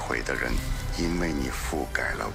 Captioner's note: low rumble